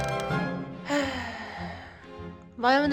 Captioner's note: sigh